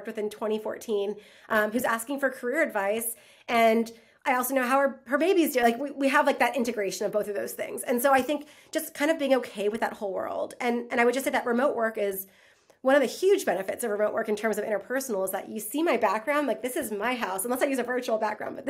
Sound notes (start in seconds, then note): none